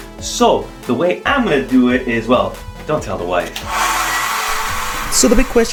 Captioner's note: hair dryer noises